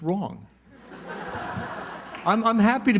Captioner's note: laughter